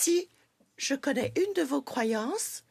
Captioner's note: speaking French